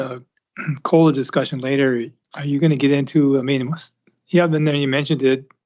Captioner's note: clears throat